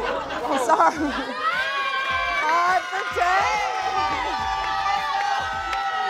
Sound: cheering

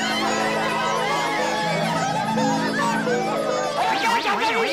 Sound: cheering

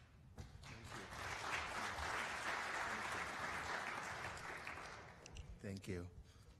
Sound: applause

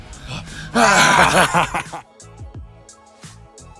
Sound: laughs

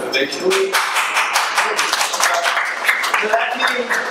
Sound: audience applauds

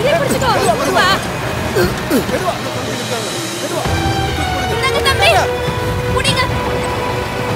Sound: public chatter

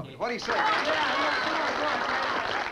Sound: party goers applauding

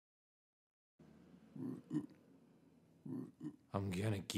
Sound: toads croaking

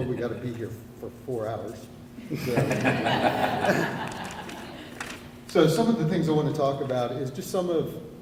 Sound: laughter

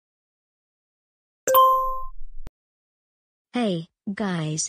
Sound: ding

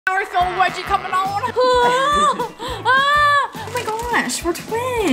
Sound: yells

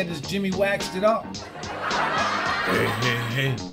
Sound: audience laughter

